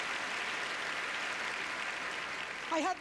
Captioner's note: applause